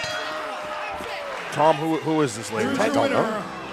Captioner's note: bell ringing